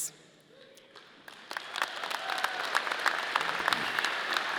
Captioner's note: audience cheering